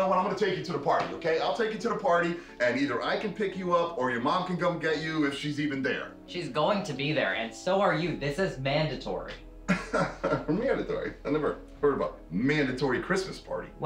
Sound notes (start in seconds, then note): 9.7 laughs